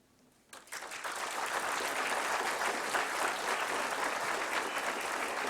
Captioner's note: applause